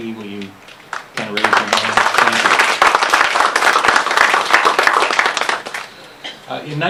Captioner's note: applause